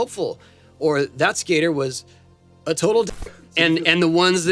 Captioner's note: audio warps